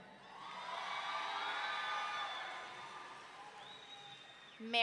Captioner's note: audience cheering